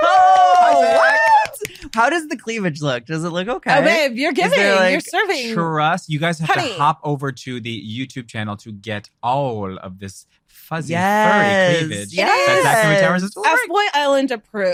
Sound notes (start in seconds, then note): 5.5 everyone cheering